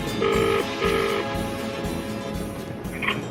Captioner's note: ringing tone